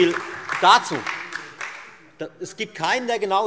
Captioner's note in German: Beifall Freie Demokraten, SPD und DIE LINKE